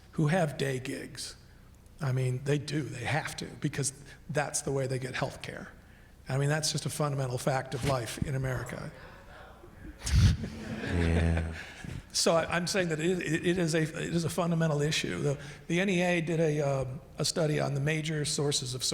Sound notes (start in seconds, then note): 8.8 man in audience talking